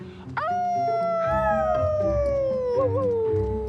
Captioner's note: Jace and Patches howling